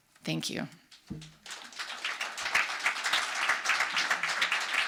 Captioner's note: audience applauds